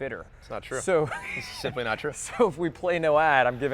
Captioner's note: laughs